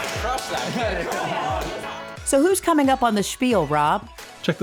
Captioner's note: clapping